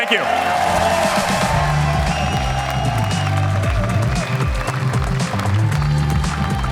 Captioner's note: cheering